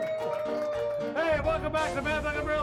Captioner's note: crowd cheers